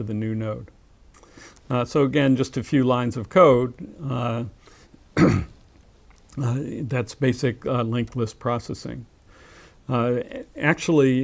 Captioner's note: cough